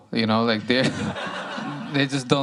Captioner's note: laughter